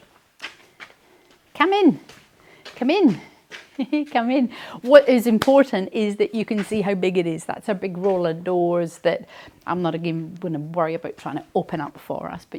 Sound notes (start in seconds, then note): 3.7 chuckles